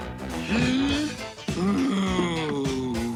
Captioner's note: gasps